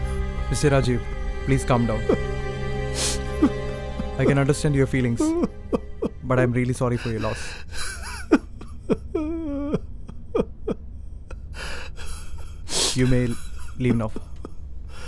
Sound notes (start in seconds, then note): 8.4 Rajeev continues Crying